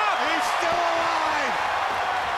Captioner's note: crowd cheering